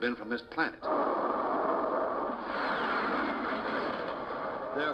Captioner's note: ufo roaring